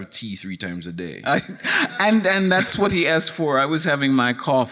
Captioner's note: chuckles